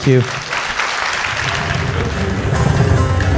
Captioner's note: clapping